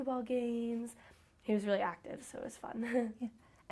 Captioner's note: chuckles